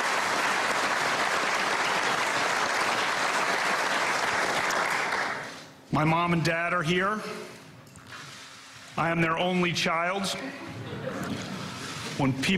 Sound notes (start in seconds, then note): 4.7 applause